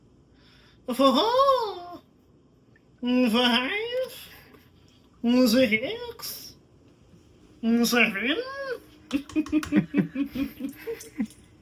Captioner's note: laughter off-screen